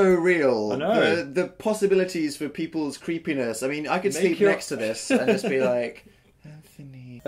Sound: laughs

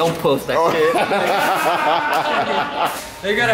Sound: laughing

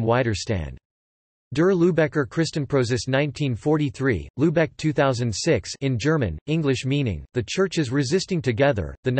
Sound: in German

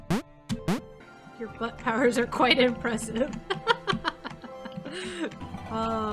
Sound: laughs

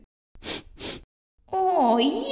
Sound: sniff! Sniff!

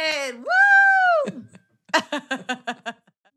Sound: laughs

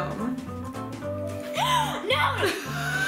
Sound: laughs; gasps

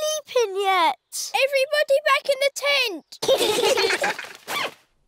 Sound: all giggling

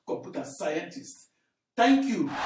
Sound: wild applause and cheering for 17 seconds

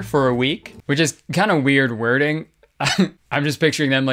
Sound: chuckles

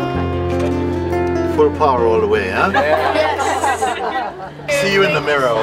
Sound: laughter

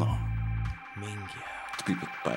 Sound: italian Expletive

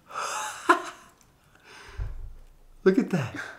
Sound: laughs

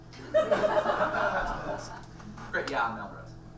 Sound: audience laughs

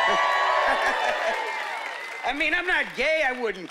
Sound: cheering and whooping

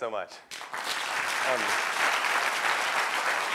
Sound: applause

